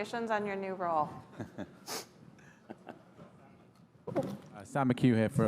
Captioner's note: laughing